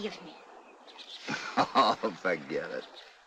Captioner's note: chuckling